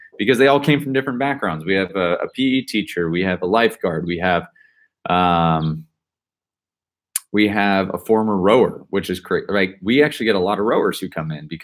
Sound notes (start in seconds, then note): none